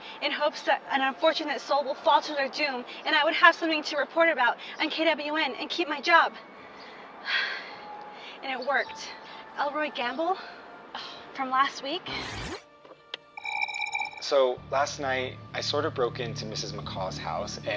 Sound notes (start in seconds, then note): 13.4 recorder chirps